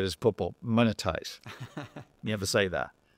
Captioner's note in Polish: śmiech